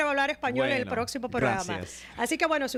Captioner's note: Hablando ingl\s